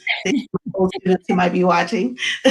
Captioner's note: laughs